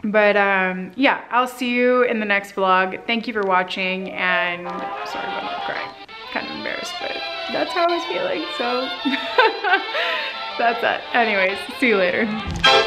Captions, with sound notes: But yeah, I'll see you in the next blog. Thank you for watching and I'm sorry about crying. Kinda embarrassed, but that's how I was feeling, so (laughs) that's that. Anyways, see you later.